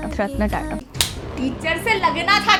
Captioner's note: smack